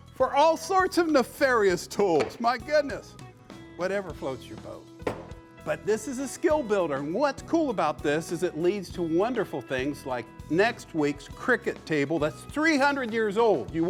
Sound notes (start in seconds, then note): none